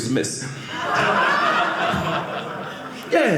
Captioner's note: audience laughing